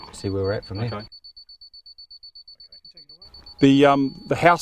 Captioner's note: beeping